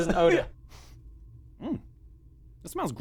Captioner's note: sniff